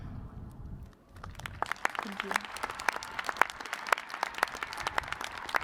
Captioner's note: cheers and applause